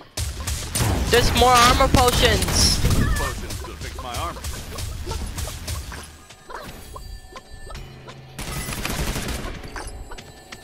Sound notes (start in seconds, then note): 6.0 foot Steps